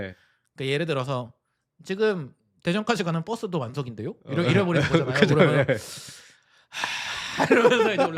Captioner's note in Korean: 한숨